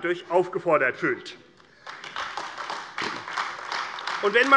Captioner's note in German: Beifall AfD